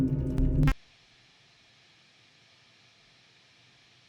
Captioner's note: static humming; static crackles